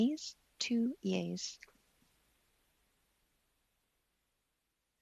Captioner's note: speaking French